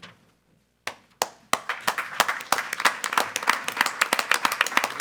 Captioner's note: all applauding